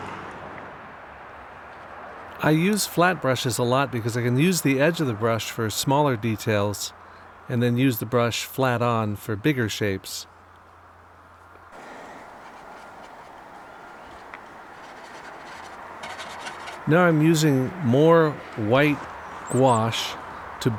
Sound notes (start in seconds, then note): 13.1 bristles quietly scratching on metal